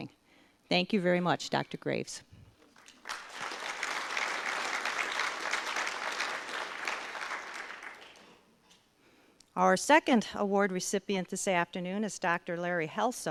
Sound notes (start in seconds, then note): 2.7 audience applause